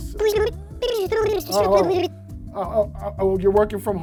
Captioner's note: fast forward voice effect